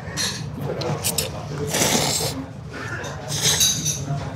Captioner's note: slurps